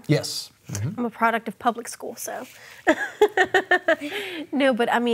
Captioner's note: chuckling